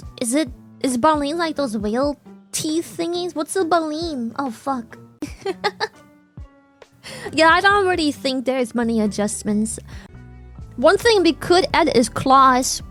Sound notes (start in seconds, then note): 5.2 laughs